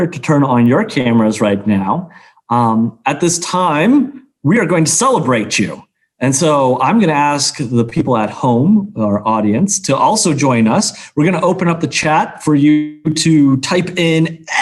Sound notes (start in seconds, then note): none